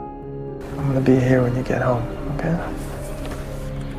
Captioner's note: voiceover